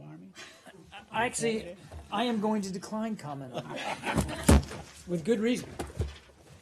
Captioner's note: laughter